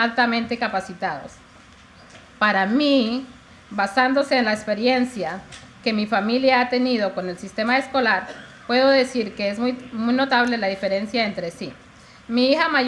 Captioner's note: speaking in spanish